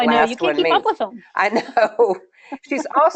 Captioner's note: laughing